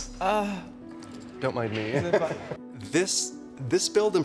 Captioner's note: chuckles